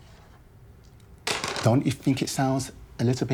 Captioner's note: dice clattering